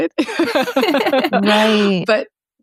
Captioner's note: group laughing